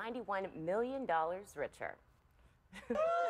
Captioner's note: cheers and applause